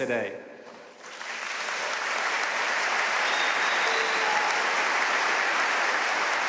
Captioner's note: audience cheering and applauding